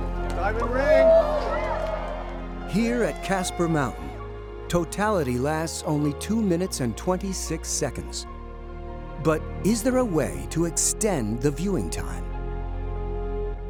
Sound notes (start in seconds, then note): 0.2 cheering